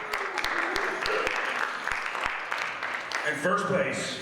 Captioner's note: audience applauds